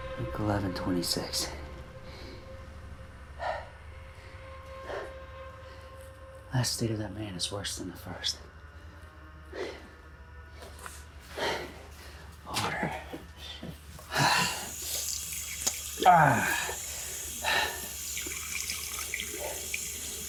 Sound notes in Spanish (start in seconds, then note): 3.3 Jonathan respirando pesadamente; 14.0 agua corriendo; 16.0 Jonathan gime